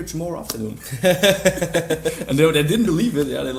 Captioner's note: laughter